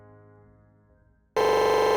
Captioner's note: digital stuttering